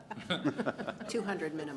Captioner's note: laughter